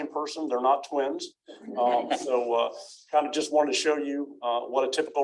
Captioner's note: laughter